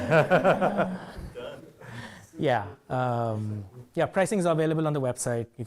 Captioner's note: man speaking faintly off microphone